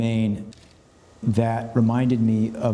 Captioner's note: camera clicks